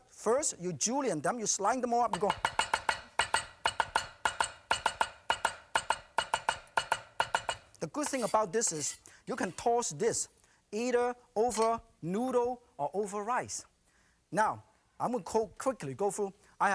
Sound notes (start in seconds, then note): 2.1 knife chopping noises